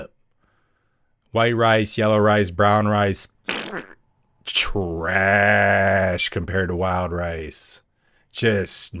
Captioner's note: fart noise